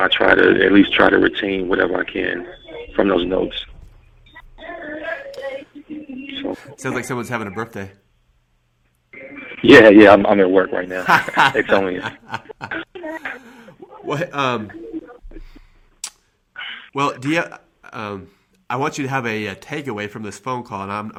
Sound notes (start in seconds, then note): 10.9 laughing